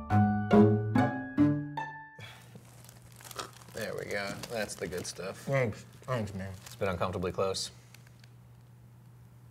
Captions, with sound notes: (quirky music) (plastic wrinkling) - There we go, that's the good stuff. - Thanks, thanks man. - It's been uncomfortably close.